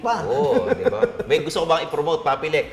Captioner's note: laughs